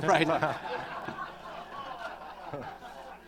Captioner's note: laughter